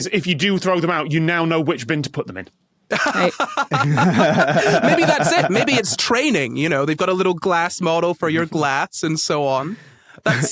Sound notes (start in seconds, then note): 2.9 laugh